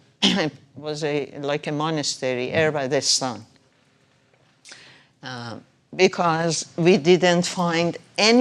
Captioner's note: speaking foreign language